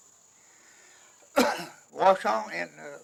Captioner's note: coughs